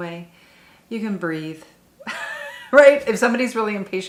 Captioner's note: chuckles